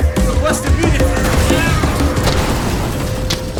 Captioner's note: explosion; noise of explosion; panting, running noise